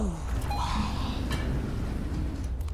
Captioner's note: elevator doors opening